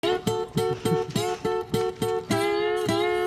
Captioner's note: laughs